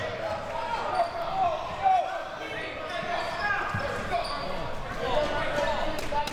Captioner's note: audience chattering and yelling